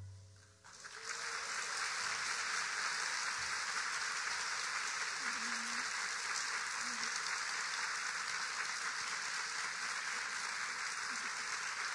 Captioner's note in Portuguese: Palmas